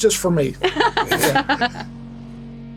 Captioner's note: laughs